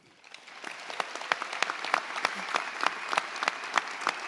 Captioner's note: audience applauds